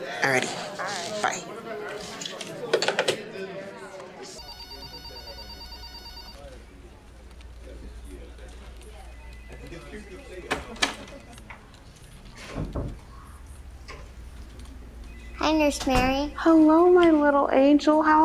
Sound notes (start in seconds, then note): 2.5 phone clicking on receiver; 3.4 people chatting; 4.4 telephone ringing; 10.6 door clicking